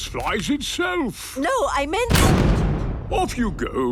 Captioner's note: blasts off